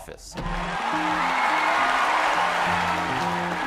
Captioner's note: applause